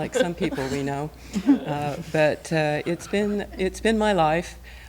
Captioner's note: laughter